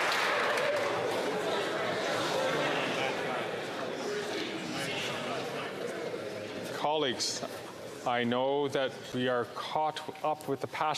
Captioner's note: some Applause